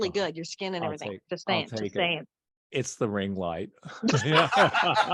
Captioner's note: laughter